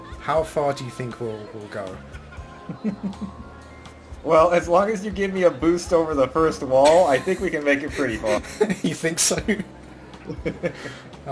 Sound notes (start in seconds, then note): 6.6 laugh